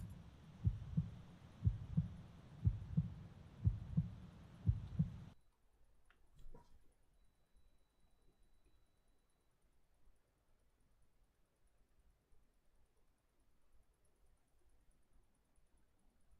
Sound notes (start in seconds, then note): 5.6 silence